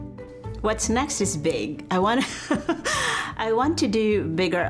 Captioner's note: softly laughs